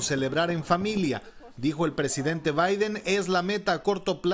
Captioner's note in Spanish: hablan en inglés